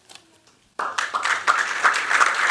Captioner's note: applause